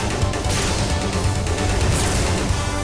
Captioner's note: none